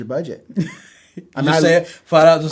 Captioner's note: laughs